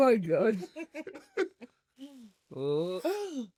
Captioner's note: laugh